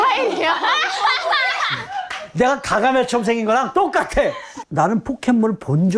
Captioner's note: Charmander bursts into laughter